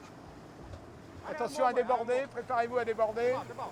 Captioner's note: man speaking French